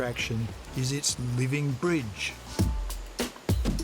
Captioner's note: water sloshing; upbeat music continues